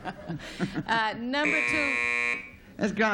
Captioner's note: buzzer